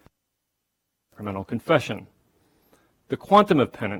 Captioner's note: audio cuts out